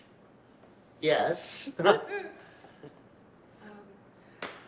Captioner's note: chuckles